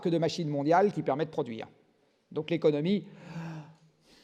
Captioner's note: breathes